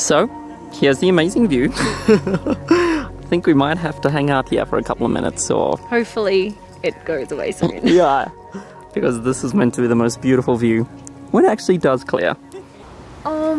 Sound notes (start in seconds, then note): 1.7 laughs